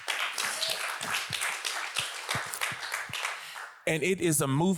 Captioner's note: audience applauds